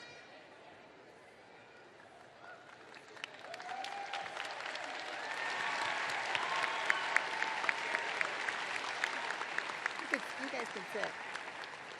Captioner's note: cheers and applause